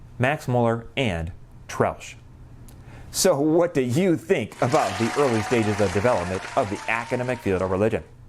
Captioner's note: applause